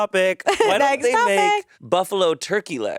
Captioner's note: chuckling